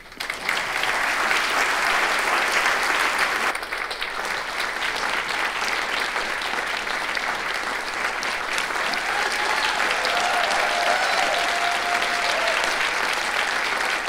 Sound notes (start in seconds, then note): 0.3 audience applauding; 8.6 audience cheering